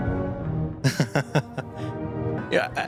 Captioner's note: fondly laughing